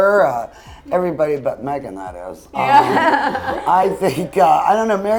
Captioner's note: all laugh